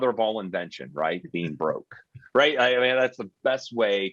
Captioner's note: chuckling